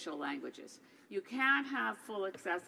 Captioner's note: speaking French